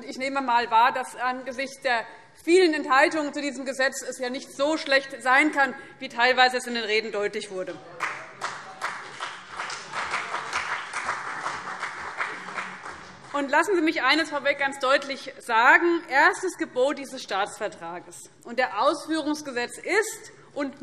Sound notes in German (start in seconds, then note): 7.9 Beifall CDU und BÜNDNIS 90/DIE GRÜNEN